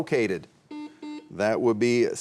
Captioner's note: buzzer buzzing